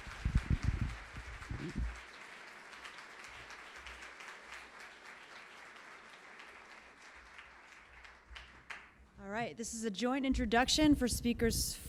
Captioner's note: applause